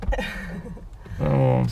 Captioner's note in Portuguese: risos